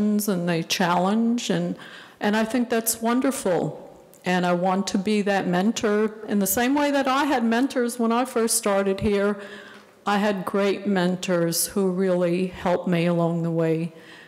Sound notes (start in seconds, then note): none